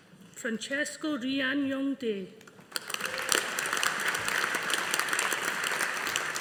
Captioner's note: audience applauding